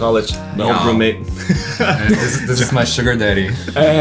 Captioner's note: chuckles